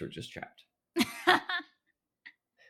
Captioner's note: laughing